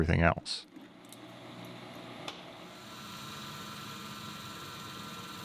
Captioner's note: machine whirring